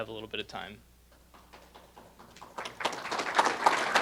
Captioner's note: audience applauses